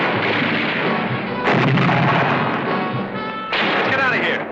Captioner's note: explosion